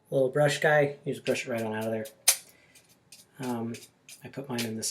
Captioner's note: brushing